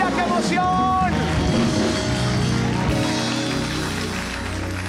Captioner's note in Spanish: Ovación